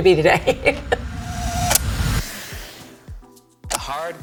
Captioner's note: laughing